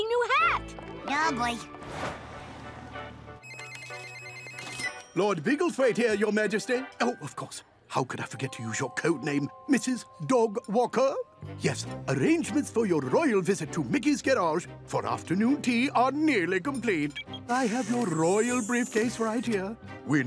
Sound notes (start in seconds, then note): 3.4 phone ringing